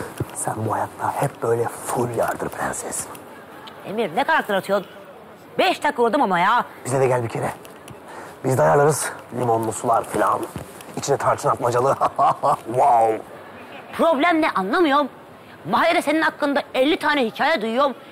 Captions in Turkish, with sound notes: Sen bu hayatta hep böyle full yardır prenses. Emir ne karakter atıyorsun? Beş dakika uğradım ama ya. Bize de gel bir kere. Biz de ayarlarız limonlu sular falan. İçine tarçın atmacalı. Ha, ha, ha. Vaov. (Gülme efekti) Problem ne anlamıyorum. Mahallede senin hakkında elli tane hikaye duyuyorum...